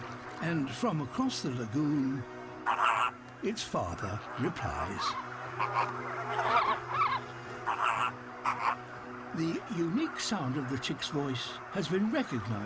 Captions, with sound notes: And from across the lagoon... (CROAKS) ...its father replies. (CHITTERING AND CROAKING) The unique sound of the chick's voice has been recognised